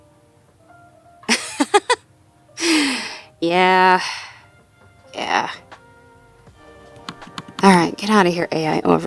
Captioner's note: laughs; more clicks